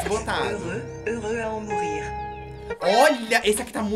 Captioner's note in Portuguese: narração em francês